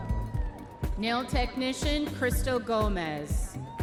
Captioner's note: audience members cheering